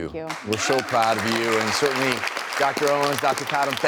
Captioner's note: applause